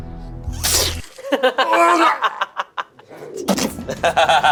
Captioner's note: blood squelches